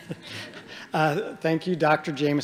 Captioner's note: audience chuckling